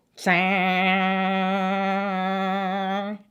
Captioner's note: hums